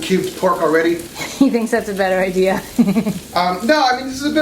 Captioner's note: laughing